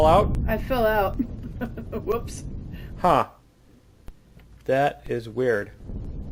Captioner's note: laughs